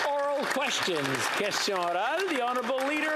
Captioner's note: some Applause